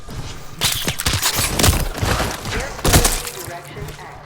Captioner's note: gunshots firing